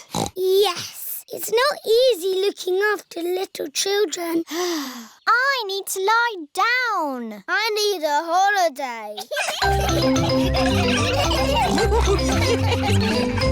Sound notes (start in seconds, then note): 4.9 sighs; 9.2 all laughing